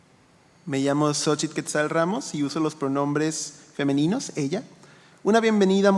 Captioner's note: speaking in foreign language